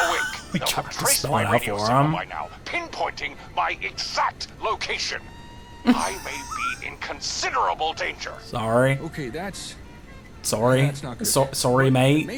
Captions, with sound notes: We try to spell it out for them. (laughs) Sorry. Sorry. Sorry, mate.